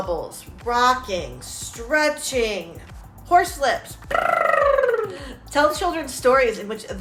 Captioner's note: lip smacking